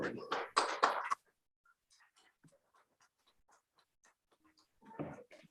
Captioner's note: council members clapping